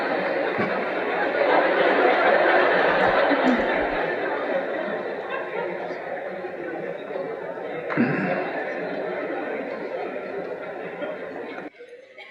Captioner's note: laughter